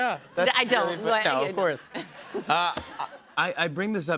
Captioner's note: laughter